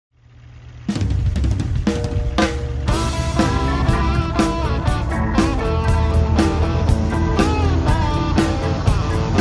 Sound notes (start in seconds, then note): 0.1 motors rumbling; 0.4 country music